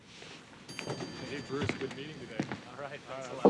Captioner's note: elevator beeps